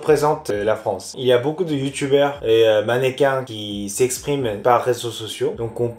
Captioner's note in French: français